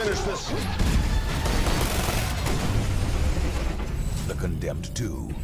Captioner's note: gunfire